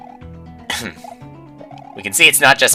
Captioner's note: clears throat